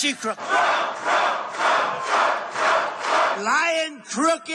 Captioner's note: crowd